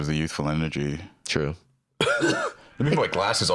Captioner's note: coughs geriatrically